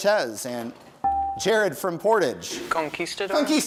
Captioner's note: bell rings